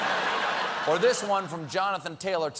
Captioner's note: laughter